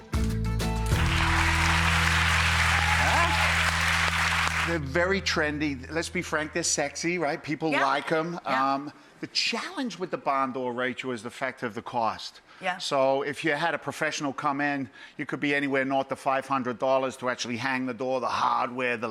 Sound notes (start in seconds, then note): 0.8 audience clapping